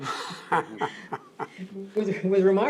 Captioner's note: laughter